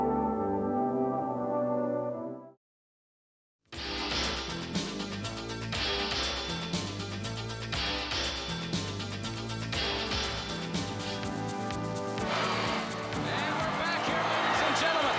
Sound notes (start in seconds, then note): 3.6 crowd cheering